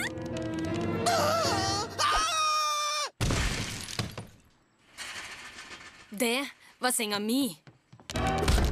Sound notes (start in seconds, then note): 0.9 gasps